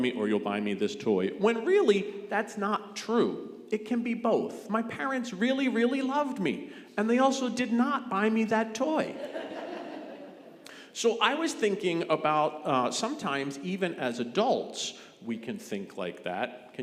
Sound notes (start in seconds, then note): 9.0 congregation laughing